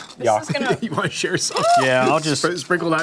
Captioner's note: laughter